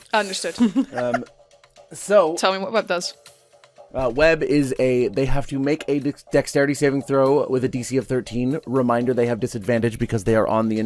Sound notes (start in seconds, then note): 0.6 laughter